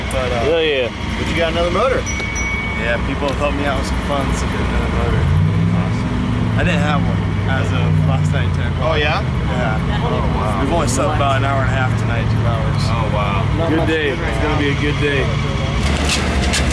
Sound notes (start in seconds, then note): 1.2 bells ringing; 15.8 rattling noise; 16.0 engine revving